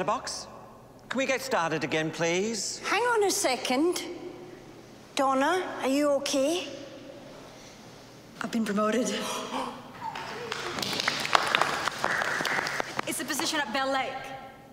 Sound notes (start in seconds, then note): 9.4 gasping